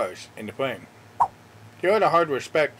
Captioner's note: swipe Sound